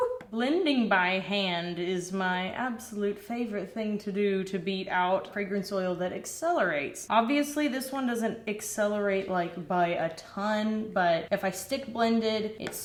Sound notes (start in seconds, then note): none